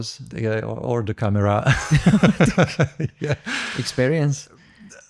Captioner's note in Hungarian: nevetés